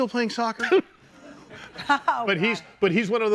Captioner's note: laughing